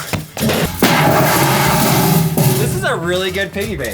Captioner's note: metal box clanging